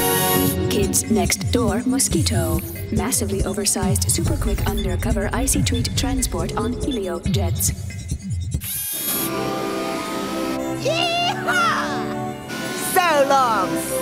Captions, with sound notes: Computer: KIDS NEXT DOOR M.O.S.Q.U.I.T.T.O.H. -- MASSIVELY OVERSIZED SUPER-QUICK UNDERCOVER ICY-TREAT TRANSPORT ON HELIOJETS. [ WHIRRING ] YEE-HAW! SO LONG, SUCKERS!